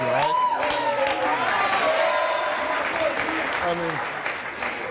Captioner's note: audience clapping